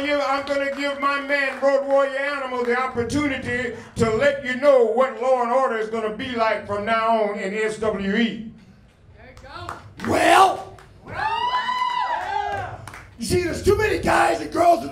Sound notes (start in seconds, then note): 10.0 cheering